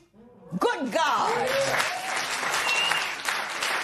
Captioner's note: cheers and applause